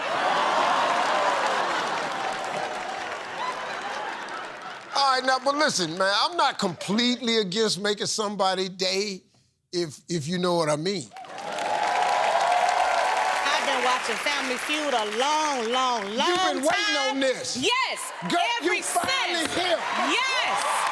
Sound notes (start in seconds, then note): 0.1 laughter; 11.9 cheers and applause